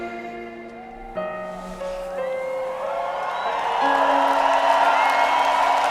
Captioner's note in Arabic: يهتف الجمهور ويصفق